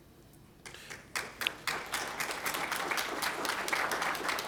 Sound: applause

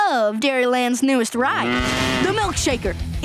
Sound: mooing

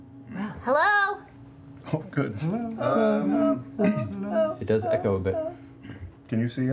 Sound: imitates echo

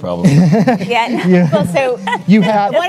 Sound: chuckles

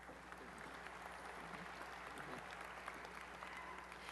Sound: applause

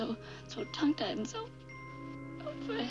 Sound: almost crying

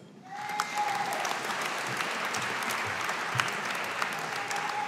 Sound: audience applauding

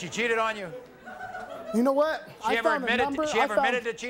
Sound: laughter

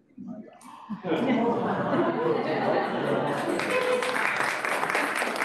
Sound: laughter, applause

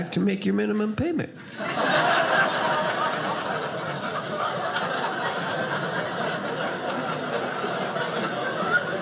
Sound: audience laughing

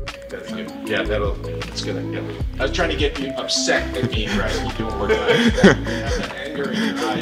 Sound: laughter

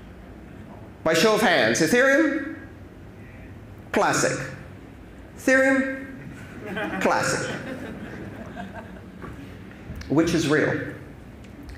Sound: laughter

